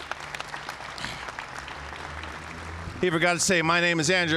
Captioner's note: applause